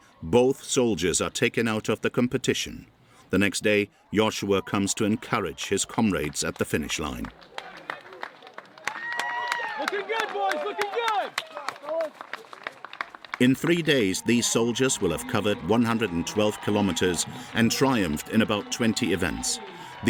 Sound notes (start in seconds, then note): 7.4 audience applauding